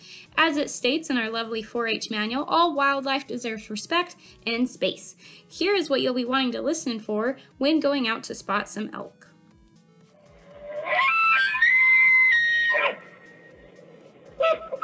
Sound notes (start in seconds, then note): 10.4 elk Bugle